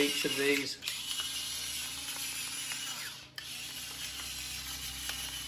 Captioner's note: pepper grinder spinning